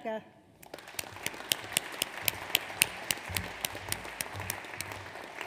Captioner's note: audience applauds